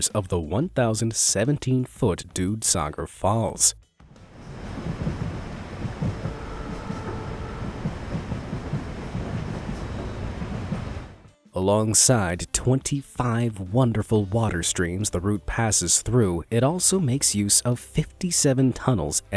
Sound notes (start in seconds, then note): 4.9 water gushing; 7.5 train engine revving